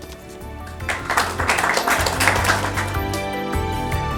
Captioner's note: clapping